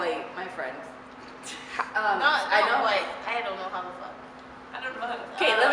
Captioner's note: laughter